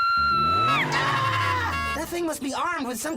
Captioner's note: bumblebee screaming